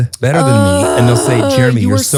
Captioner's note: grunting